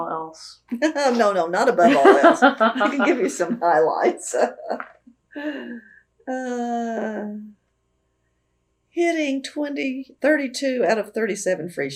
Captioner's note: laughter